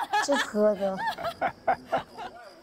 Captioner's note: hahaha